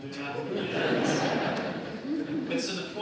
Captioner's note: laughter